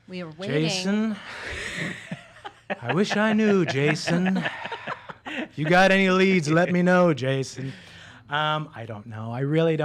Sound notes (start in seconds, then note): 1.3 laughing